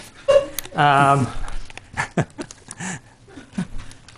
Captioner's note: chuckles